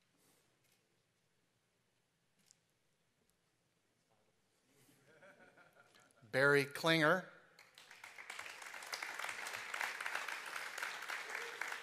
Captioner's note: applause